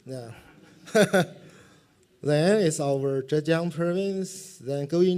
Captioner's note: laughs